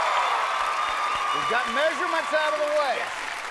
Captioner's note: cheers and applause